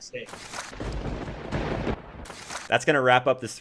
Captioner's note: thunder crackling